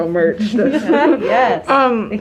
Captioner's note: laughing